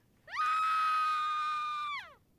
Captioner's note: scream